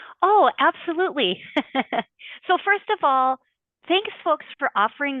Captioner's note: laughs